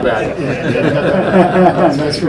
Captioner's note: everyone laughing